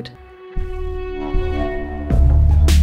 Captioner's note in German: Dröhnen; Treibende Musik